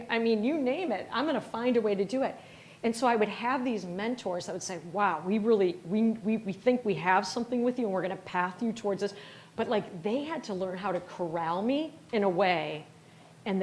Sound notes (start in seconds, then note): none